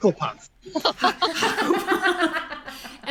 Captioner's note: all laugh